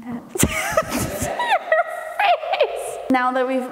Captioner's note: laughing